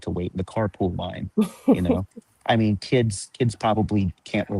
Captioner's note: chuckles